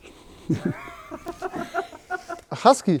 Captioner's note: Lachen